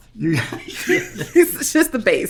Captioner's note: laughing